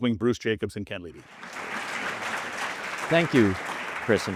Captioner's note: audience applauding